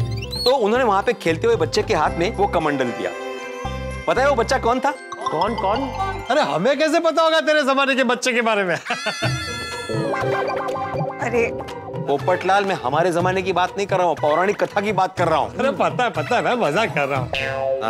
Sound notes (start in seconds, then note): 8.8 laughs; 9.2 comical music plays